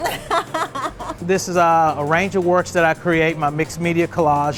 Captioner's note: laughing